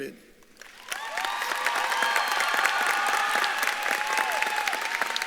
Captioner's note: audience claps and cheers